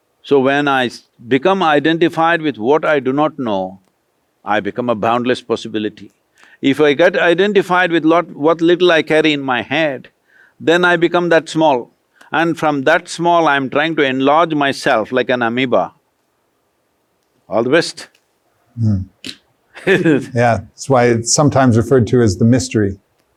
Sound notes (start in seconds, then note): 19.7 laughs